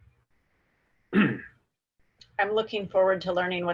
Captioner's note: clearing throat